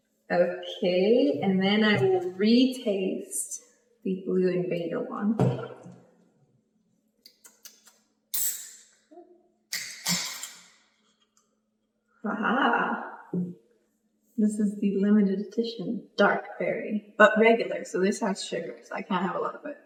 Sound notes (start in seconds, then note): 7.3 smacks lips; 9.7 can cracks